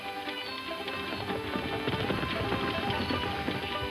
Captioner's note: hooves clopping